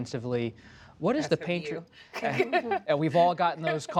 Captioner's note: laughs